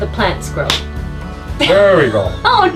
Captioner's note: smack